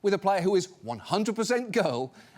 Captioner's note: none